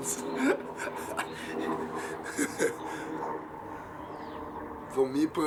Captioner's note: laughs